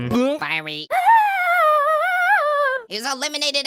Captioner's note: gulps; screams